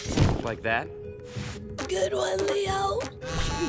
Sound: buzzing, chiming

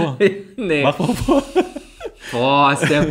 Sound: laughs

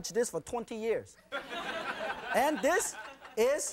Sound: audience laughing

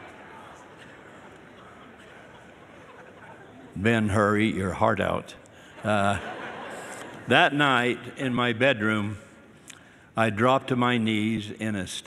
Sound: laughter

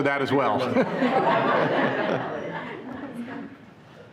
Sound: everyone laughing

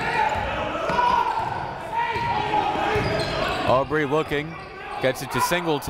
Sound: coaches yelling; crowd talking

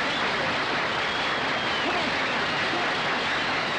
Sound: indistinct chatter

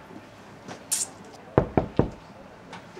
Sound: knock at the door

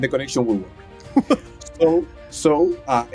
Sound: host chuckles

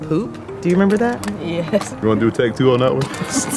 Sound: laughing

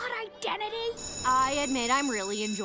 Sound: school bell rings

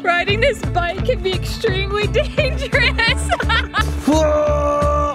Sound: laughing

